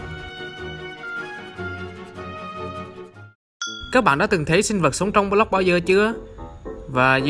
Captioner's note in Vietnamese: Minecraft XP Sound